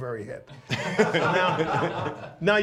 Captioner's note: laughs